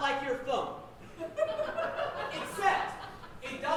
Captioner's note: audience laughing